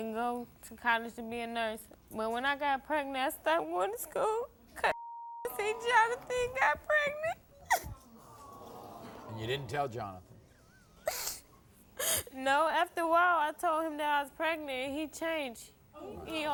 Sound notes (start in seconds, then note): 4.9 beep; 7.8 audience awws